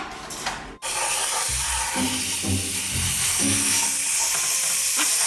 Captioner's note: washer whirring